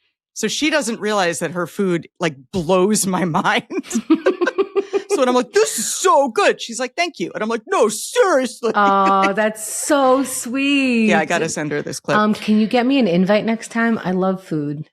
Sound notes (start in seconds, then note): 3.0 laughs